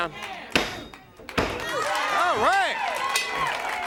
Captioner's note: crowd chatter